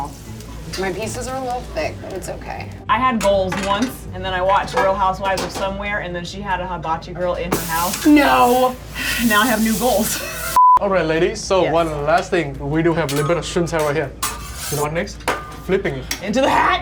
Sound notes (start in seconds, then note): 10.5 beep